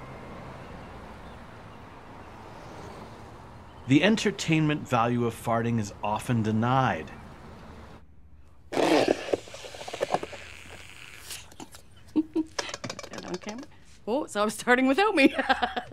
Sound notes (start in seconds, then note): 11.4 chuckles